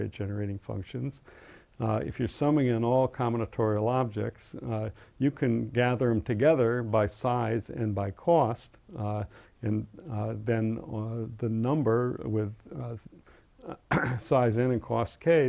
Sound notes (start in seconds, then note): 10.2 cough